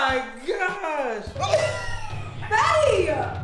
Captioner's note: gagging